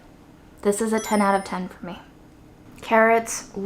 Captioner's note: chimes tinkling